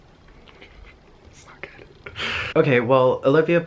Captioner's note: chuckling